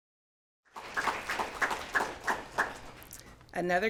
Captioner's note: applause